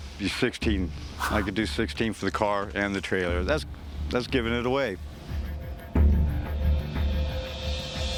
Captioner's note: none